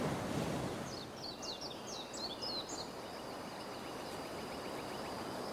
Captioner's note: birds chirping